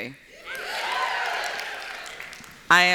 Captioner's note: cheers